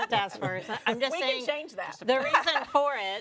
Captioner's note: panelist chuckles